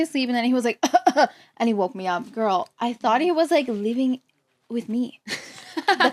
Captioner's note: coughs; laughs